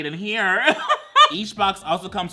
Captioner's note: laughs